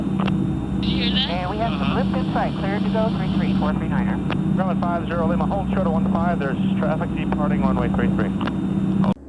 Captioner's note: radio